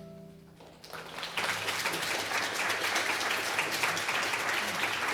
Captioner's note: applause